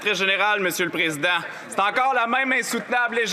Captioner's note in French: voix de l'interprète